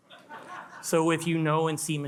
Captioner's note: attendees laugh